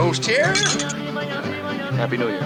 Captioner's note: glasses clinking